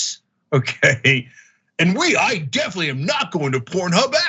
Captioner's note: laugh